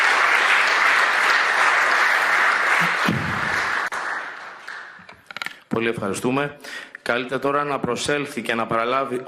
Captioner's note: applause